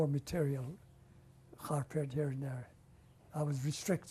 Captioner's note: non-english